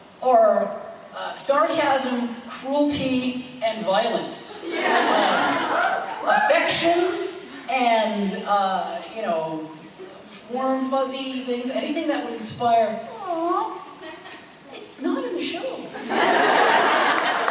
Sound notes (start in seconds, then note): 4.6 audience agreeing and cheering